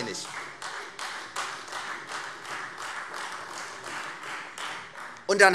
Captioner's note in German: Beifall Freie Demokraten und vereinzelt SPD